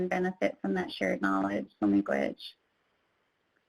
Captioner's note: speaks in foreign language